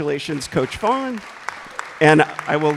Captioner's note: applause